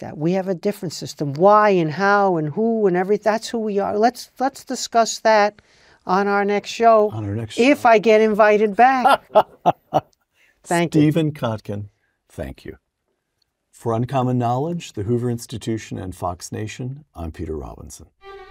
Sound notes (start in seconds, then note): 9.0 laugh